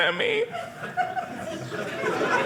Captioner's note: audience laughing